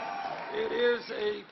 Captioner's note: applause